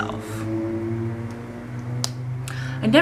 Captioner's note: loud engine noises